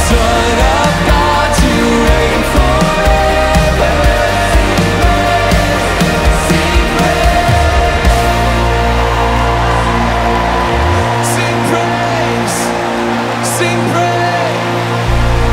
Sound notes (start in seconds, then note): 8.3 audience applauding